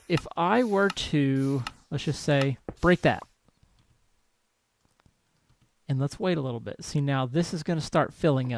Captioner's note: clicking stops